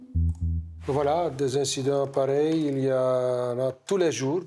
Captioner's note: French spoken audio